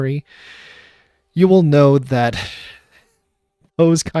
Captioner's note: war crime sigh